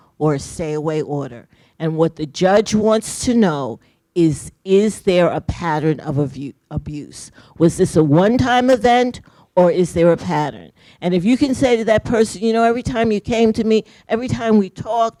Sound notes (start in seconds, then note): none